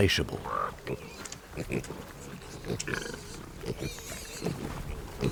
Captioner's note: piglets grunting